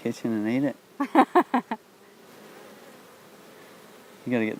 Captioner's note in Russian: женщина смеётся